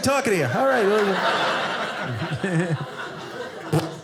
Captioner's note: audience laughing